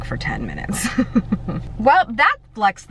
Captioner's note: laughs